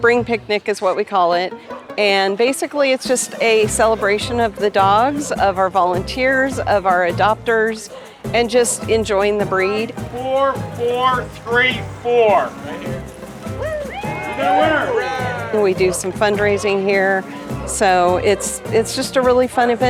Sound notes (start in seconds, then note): 13.5 cheering